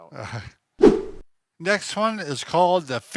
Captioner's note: whip sound